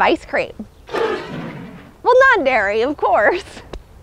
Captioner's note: roars inquisitively